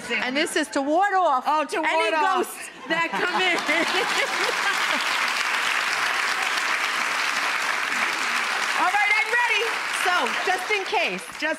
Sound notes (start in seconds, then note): 2.8 laughs; 3.2 audience applauds